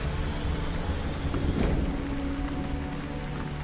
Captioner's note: mechanical whirring; dramatic music